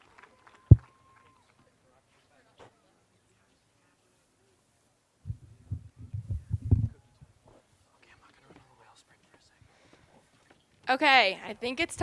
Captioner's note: applause